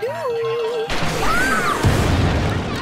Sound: screaming

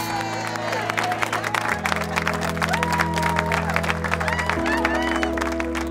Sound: applause, over music

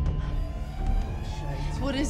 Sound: siren blaring

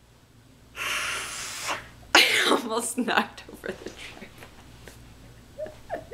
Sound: laughing

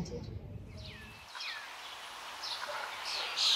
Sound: birds chirping

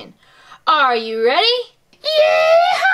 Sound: imitates Jessie's voice

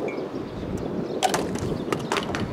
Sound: rumbling

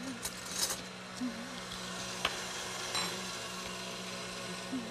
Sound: mixer whirring

